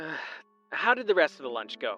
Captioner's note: sighs; phone vo